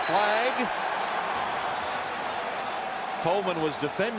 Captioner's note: cheering